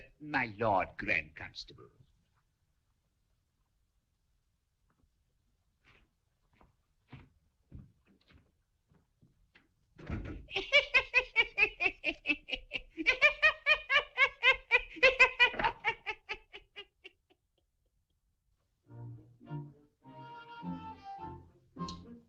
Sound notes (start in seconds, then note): 10.5 لويس يضحك; 18.8 موسيقى خفيفة